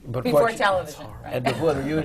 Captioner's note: laughs